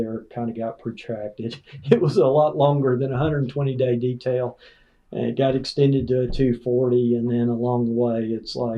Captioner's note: laughs